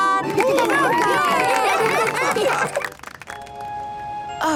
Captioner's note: cheering, applause